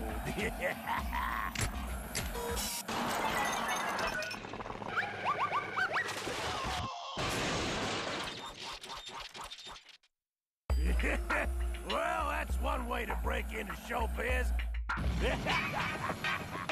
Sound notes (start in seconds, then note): 0.2 laughs maliciously; 7.2 crashing; 15.2 Sam laughing